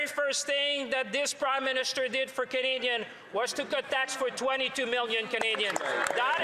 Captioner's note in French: voix de l'interprète